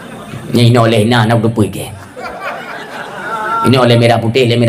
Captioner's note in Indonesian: tertawa